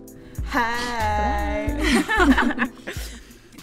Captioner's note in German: Gelächter